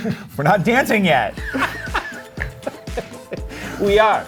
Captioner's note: laughter